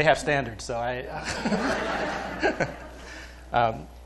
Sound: laughter

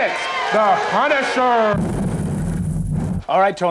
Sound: exploding

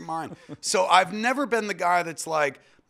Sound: laughs

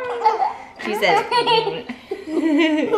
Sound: laughter; funny noise

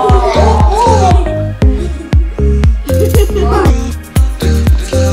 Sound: kids giggling; upbeat music

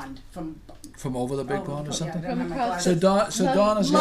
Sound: voiceover

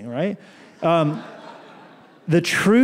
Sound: laughter

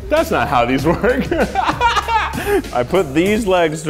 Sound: laughs

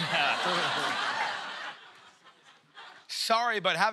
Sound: laughter

